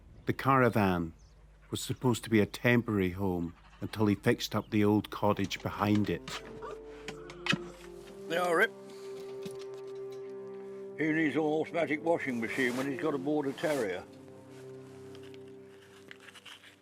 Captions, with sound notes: The caravan was supposed to be a temporary home, until he fixed up the old cottage behind it. (dog whining) - There you are, Rick. Who needs all those magic washing machines, when he's got a Border Terrier?